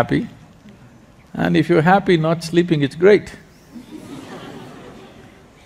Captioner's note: laughter